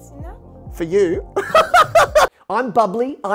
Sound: laughing

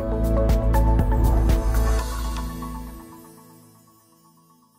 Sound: bright music; logo whooshing

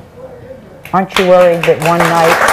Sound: audience applauds

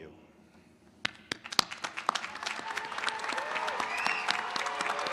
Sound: applause

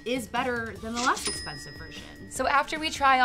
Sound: till rings

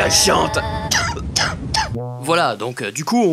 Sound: cough

